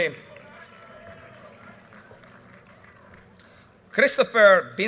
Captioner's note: audience cheers and applause